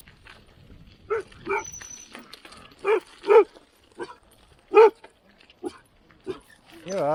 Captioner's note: dog barks